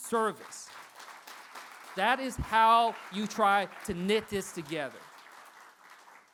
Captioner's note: applause